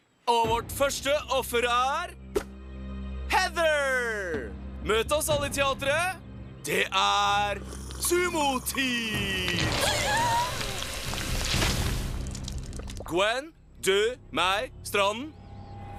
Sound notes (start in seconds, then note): 9.7 gasping